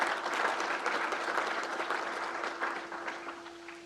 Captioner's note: crowd applauds